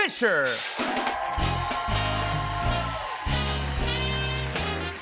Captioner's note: cheers and applause